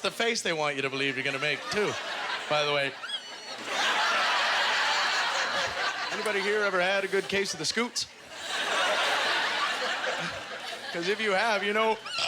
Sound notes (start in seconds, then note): 4.0 audience laughter; 8.2 audience laughter